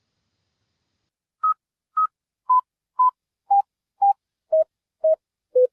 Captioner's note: beeping